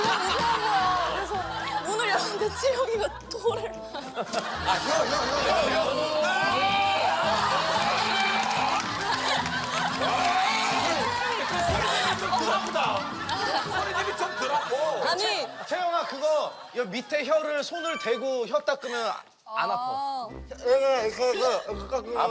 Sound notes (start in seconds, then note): 6.0 gagging noises